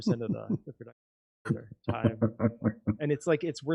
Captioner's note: chuckling